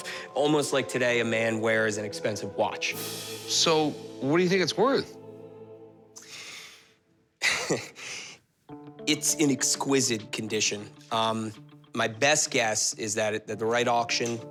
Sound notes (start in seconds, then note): 7.0 laughs